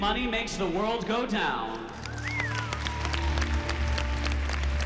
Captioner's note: cheering, applause